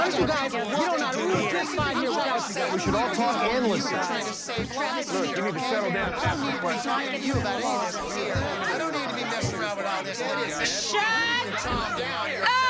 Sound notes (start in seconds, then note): 4.2 arguing continues